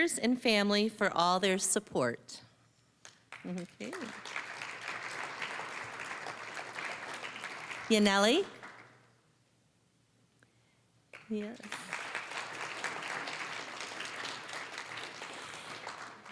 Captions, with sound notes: and family for all their support. (applause) Yaneli. (applause)